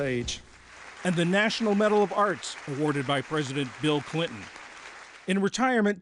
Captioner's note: voice-over